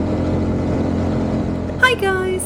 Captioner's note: motorbike engine